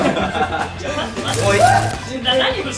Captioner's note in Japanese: 電流の効果音